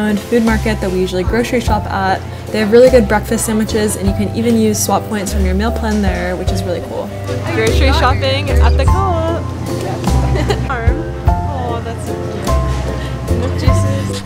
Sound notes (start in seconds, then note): 10.2 giggling